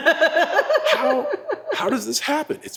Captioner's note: laugh